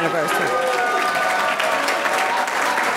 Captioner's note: audience cheering; audience clapping